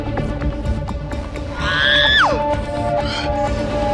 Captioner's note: Screams